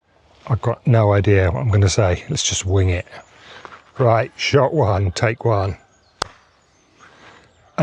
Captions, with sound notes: I've got no idea what I'm going to say. Let's just wing it. Right, shot one, take one. [CLAP]